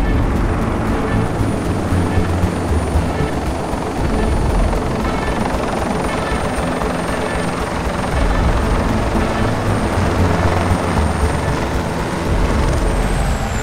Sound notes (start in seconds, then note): 5.1 helicopter whirs continues; 9.6 thrilling music continues